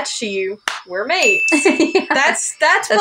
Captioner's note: laugh